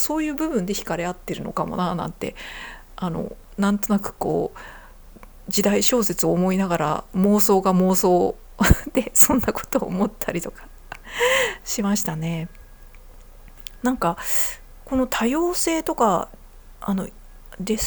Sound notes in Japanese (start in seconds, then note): 10.6 笑い; 11.0 息をのむ音